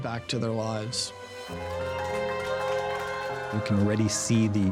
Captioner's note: dramatic music; celebrating, clapping